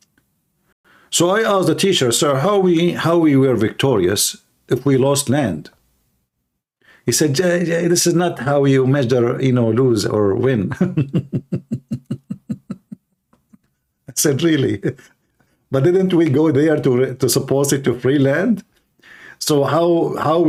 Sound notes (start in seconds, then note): 10.7 Ketawa